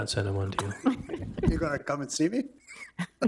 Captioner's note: people chuckle